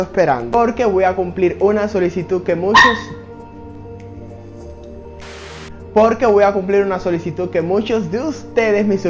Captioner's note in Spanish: Perrito ladra